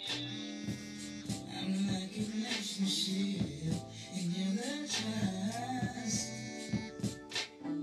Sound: phone vibrating

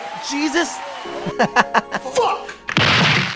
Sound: chuckling

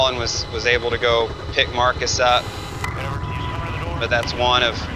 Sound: radio chatters loudly

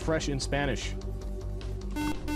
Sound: buzzer

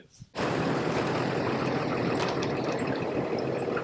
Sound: RV engine running sound

